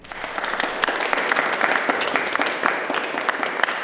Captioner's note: guests clapping